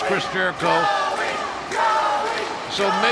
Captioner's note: chant starts